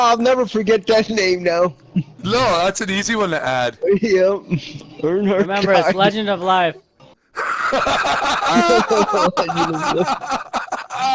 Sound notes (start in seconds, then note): 5.4 laughing